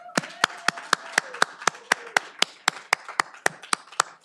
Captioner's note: all applauding